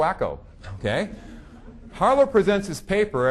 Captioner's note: audience laughing